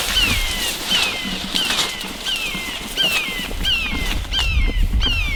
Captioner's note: bird squawking